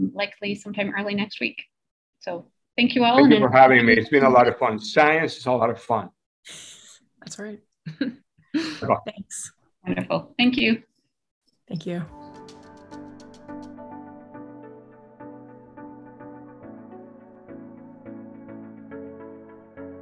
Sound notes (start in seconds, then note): 8.6 mumbling; 11.8 upbeat music